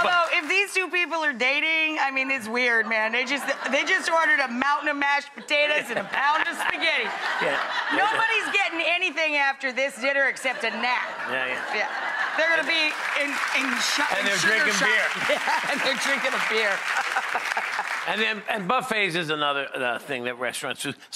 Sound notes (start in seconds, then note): 7.4 laughing